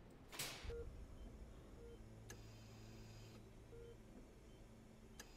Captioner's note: monitors beep